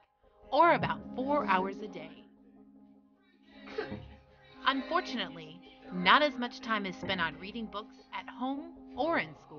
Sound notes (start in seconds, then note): 0.2 cartoon on TV